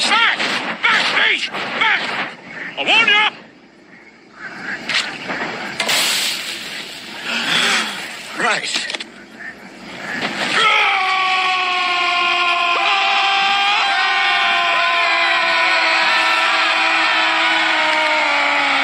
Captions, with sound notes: Back! Back, beast! Back! I warn ya! Right. *roars* Aah! *continues roaring*